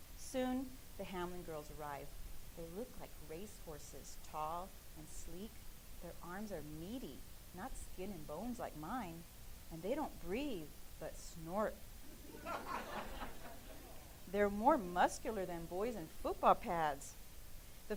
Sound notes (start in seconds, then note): 12.1 laughing